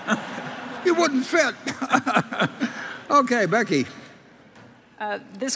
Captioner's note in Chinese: Laughter; 笑聲